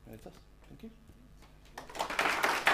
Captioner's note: applause